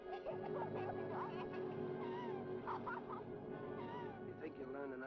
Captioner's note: Liz sobbing